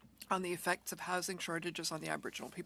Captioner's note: speaking French